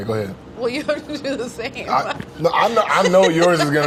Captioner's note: laughs